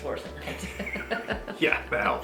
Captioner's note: both laughing